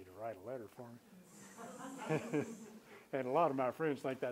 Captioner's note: laughter